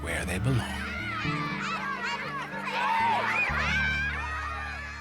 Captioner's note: students cheering